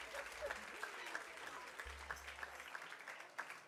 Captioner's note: cheers & applause